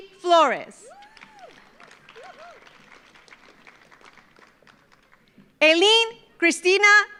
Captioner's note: audience cheers; audience applauds